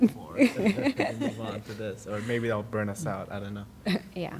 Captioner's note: laughter